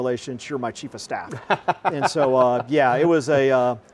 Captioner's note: laugh